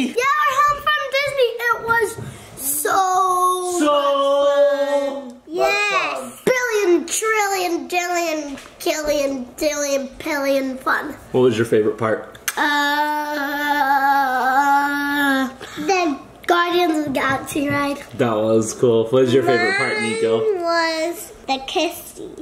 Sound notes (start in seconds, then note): 12.4 kiss